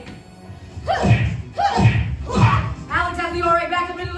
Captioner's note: punch SFX